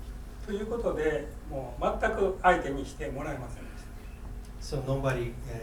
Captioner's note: speaking in foreign language